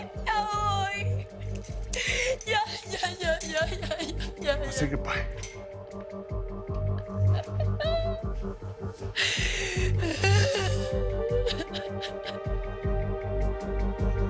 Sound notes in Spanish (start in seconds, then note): 4.0 Sollozos